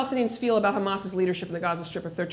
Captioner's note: none